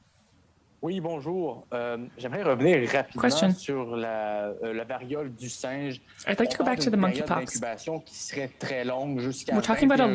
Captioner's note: speaking French